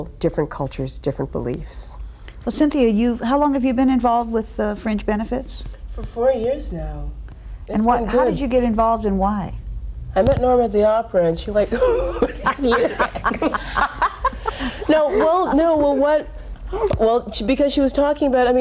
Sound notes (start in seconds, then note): 11.7 ladies laughing